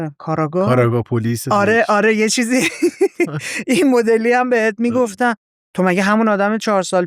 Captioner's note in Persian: خنده